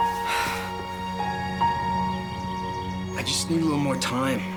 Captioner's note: Katie sighs